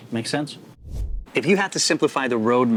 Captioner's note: air whooshing